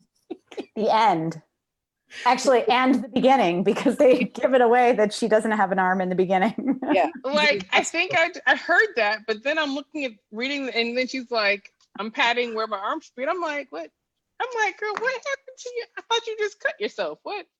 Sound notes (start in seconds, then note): 0.2 laughing